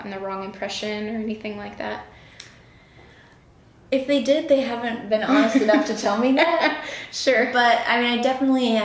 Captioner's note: laughter